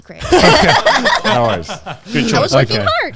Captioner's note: everyone laughing